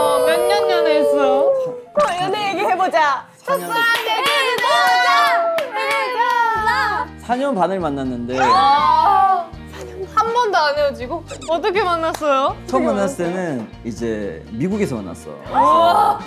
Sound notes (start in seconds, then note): 8.4 shriek♥